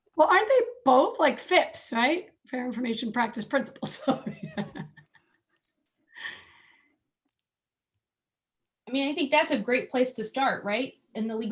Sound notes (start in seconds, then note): 3.9 laughs